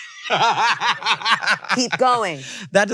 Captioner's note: laughs